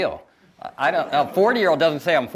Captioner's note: audience laughs